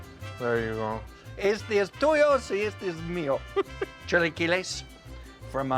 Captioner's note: speaking Spanish